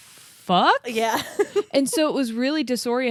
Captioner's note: laughs